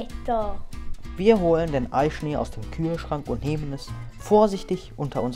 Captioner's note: voiceover